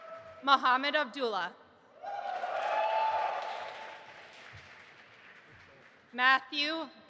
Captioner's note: audience applauding and cheering; cheering